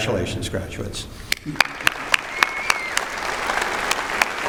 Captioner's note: applause